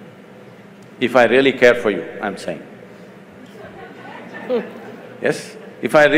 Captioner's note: laughter